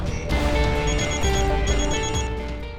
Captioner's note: phone rings